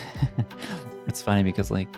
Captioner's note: laughs